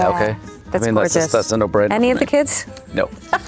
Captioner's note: laughing; Anne laughing